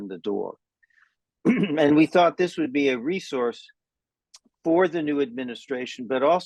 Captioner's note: cough